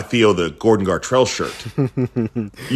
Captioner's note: laughter